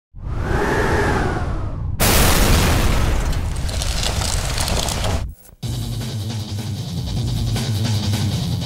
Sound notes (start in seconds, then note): 1.8 exploding; 5.7 intense music